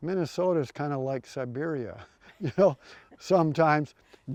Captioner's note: chuckles